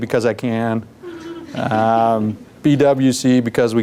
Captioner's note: laughter